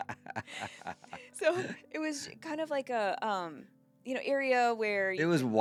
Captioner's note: laughing